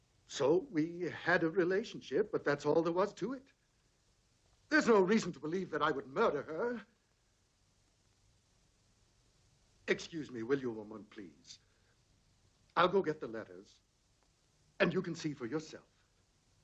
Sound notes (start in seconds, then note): none